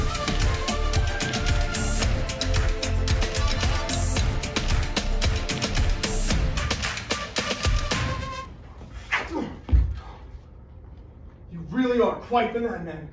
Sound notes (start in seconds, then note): 9.1 sword swish